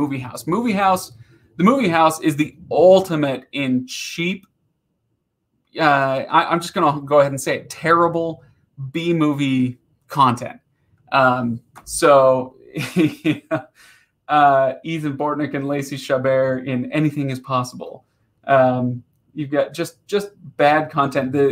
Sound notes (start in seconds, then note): 11.3 laughing